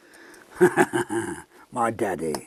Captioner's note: laughs